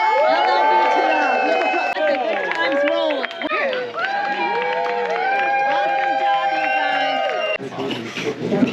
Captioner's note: cheering